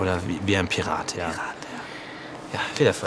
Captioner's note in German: flüsternd